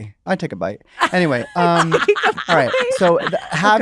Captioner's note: laughter